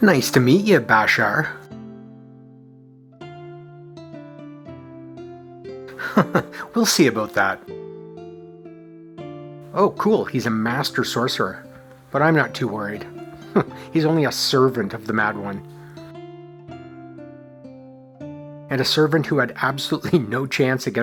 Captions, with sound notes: Nice to meet you, Bashar. [chuckles] We’ll see about that. Oh cool, he's a Master Sorcerer. But I'm not too worried. [chuckles] He's only a servant of the Mad One. And a servant who had absolutely no chance